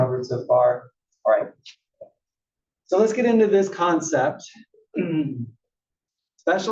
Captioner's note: cough